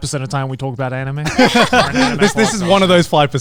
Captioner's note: everyone laughing